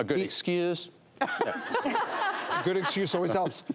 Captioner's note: all laughing